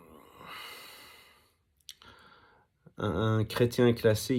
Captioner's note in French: soupir